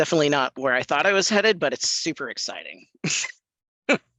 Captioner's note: chortles